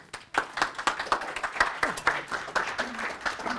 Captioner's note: applause